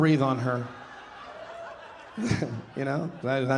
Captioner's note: audience laughing